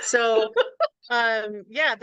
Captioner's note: laughs